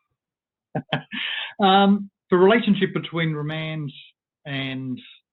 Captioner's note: laughs